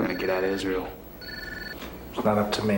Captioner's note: phone rings